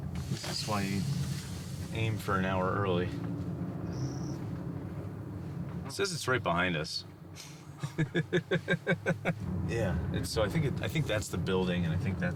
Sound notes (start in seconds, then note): 3.2 car engine roaring; 7.4 laughing